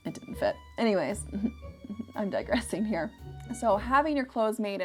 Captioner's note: laughs